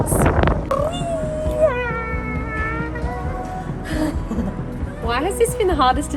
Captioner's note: makes playful sounds